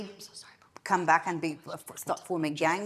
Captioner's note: speaking faintly